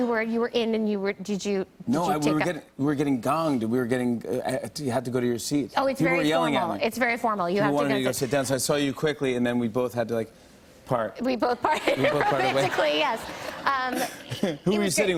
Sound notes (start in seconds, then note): 10.0 laughing